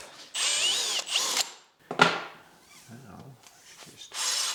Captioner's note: machine whirring